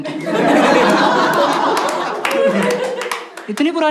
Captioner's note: laughs